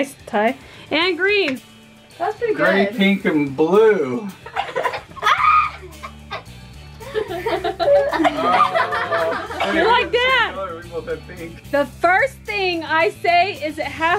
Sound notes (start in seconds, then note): 5.1 giggling